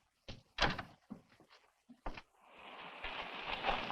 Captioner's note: door thuds